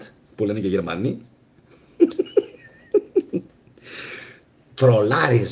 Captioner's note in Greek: γέλια